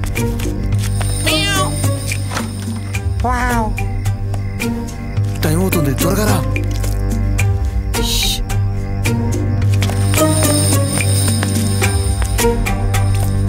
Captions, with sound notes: (Making cat sound) Ooh... Time is running out, come quickly.... Ssh...